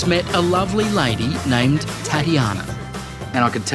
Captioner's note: none